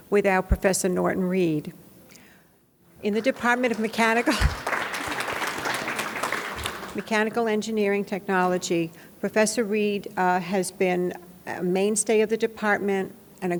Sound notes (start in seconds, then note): 4.0 laughs; 5.6 audience applauds